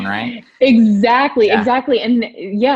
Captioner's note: laughs